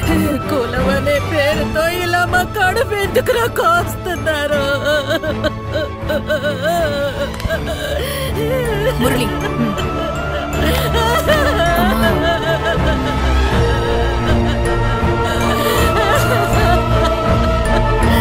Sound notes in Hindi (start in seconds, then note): 12.5 रोना